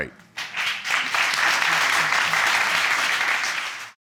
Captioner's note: audience applause